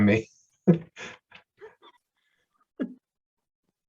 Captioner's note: chuckles